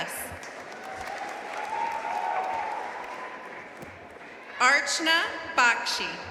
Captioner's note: audience cheering and applauding